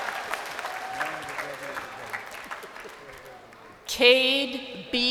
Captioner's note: crowd cheering